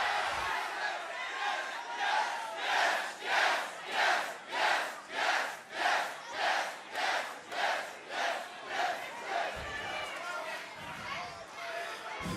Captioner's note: fans chanting yes